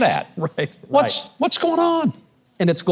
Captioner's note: laughing